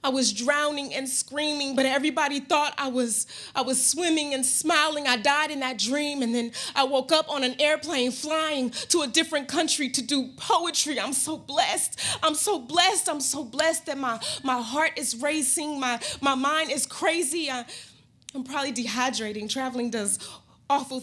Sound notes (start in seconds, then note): none